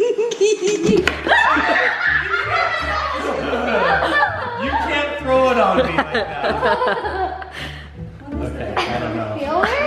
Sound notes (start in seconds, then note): 0.0 giggling; 1.5 screaming; 2.9 uncontrollable laughing